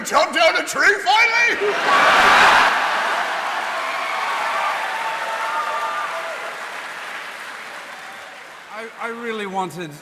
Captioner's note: laughter